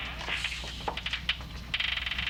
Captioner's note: hushes